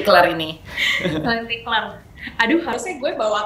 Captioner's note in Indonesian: laugh